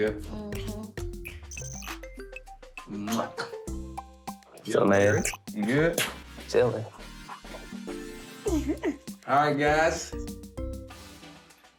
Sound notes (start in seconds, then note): 3.6 kissing